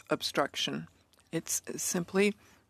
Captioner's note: speaking in French